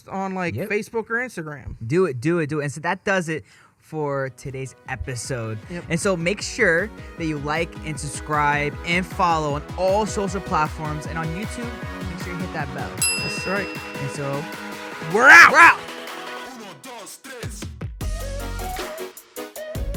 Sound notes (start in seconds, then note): 13.0 bell dings; 17.6 pop music